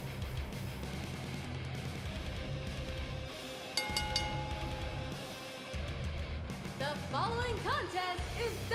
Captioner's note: bell ringing